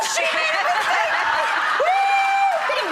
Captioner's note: audience laughs